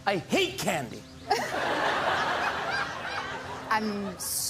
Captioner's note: laughter